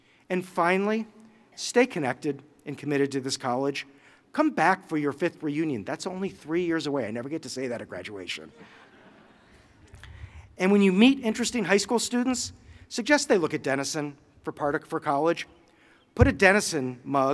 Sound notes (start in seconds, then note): 8.5 laughter